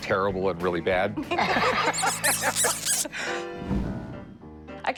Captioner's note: laughter